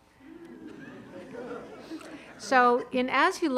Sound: audience laughing

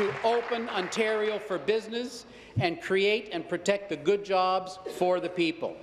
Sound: applause

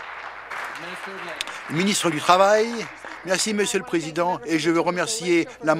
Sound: applause

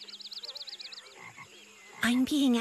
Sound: birds chirp, frog ribbits

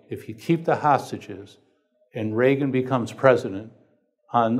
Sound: none

